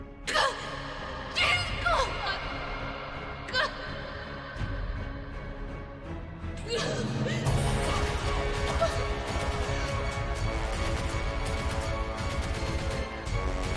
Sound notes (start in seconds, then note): 6.2 coughing & choking